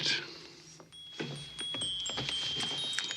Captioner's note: watch chimes